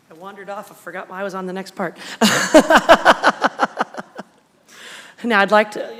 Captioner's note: laughs